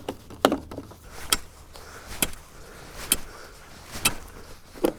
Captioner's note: plastic creaking; shoveling; plastic creaking